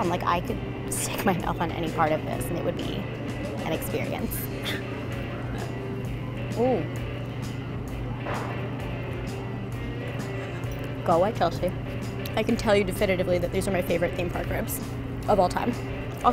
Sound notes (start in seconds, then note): 6.7 grunts with satisfaction